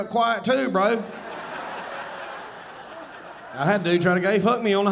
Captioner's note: audience laughing